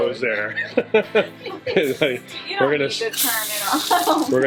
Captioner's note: laughing